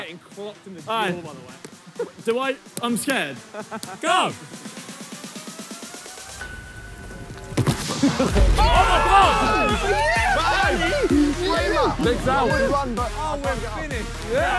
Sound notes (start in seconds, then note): 3.3 players laugh; 7.7 players cheer